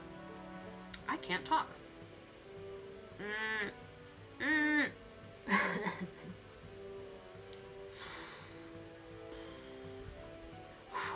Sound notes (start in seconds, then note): 5.4 laughing